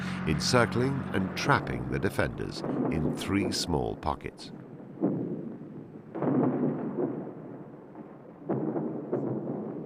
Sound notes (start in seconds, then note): 6.1 guns blasting